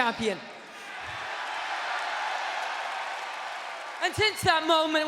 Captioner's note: audience cheering